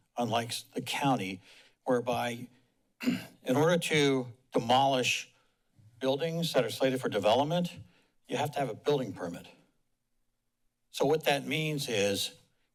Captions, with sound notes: unlikes the County, whereby, [clears throat] in order to demolish buildings that are cited for development, you have to have a Building Permit. So, what that means is